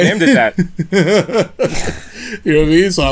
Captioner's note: laughter